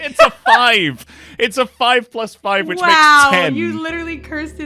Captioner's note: laughter